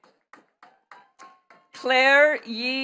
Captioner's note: attendees clapping